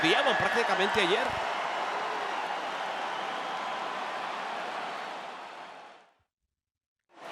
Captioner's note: applause